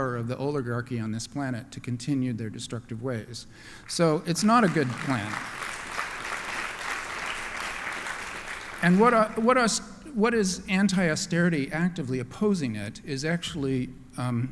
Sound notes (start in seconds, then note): 4.4 applause